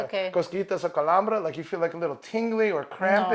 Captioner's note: speaks in a foreign language